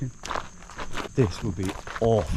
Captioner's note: footsteps treading